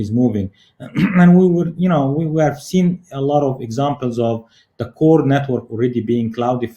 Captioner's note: cough